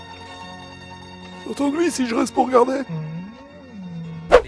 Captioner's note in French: Musique de la série; imitation vieillard; Musique de la série